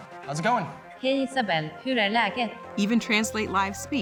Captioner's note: speaking foreign language